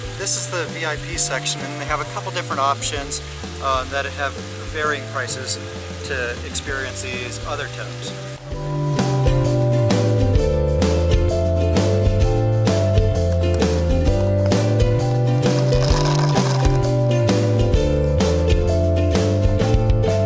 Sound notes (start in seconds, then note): 8.9 upbeat music; 15.5 water hitting camera